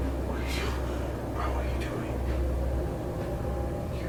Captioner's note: whispering